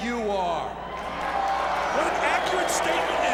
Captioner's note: audience shouting